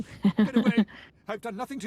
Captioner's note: laughs